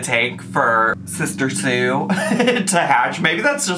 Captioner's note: laughs